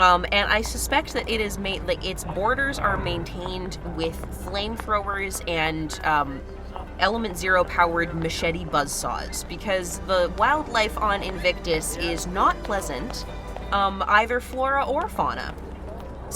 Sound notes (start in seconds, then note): none